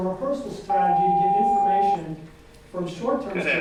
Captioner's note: bell rings loudly